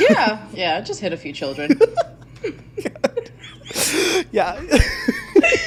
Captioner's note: both laughing